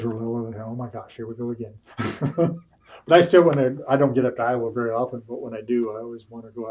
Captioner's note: laughs